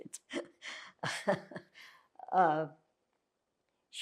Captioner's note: laughing